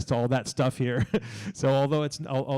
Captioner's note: laughs